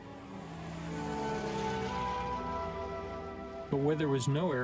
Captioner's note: plane engine roars